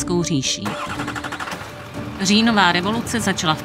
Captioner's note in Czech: startování motoru